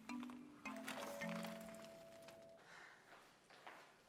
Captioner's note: doorbell ringing